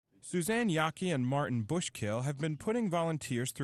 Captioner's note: voiceover